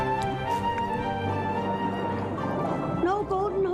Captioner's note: water gurgling